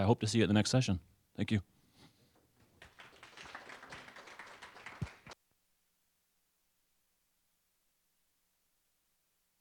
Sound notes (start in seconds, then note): 2.6 applause